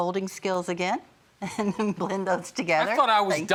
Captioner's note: laughs